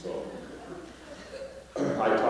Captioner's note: laughter